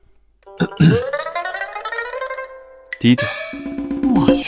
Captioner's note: cough